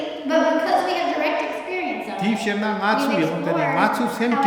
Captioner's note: speaking tibetan